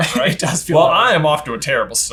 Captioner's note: laughs